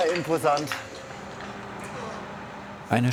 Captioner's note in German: Entfernter Maschinenlärm